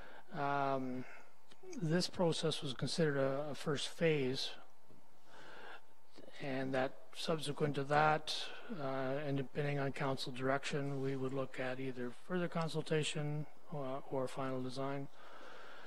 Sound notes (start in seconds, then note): none